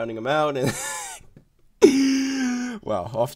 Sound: wheeeeze

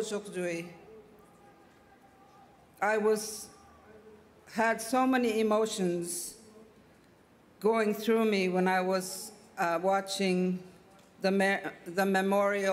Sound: speaking French

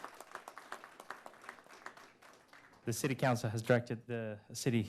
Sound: applause

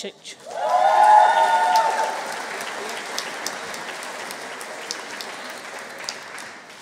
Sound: audience cheering; audience applauding

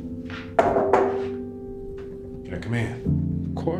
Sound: knock on door

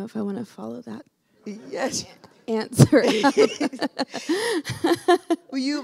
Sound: laughter

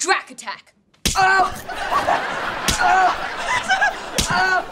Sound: yelling and laughing

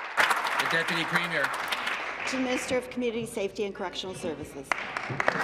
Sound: applause

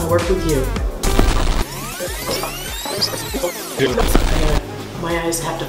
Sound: tape rewinding quickly

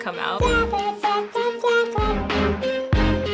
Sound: imitating beat

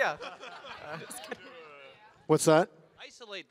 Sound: audience laugh

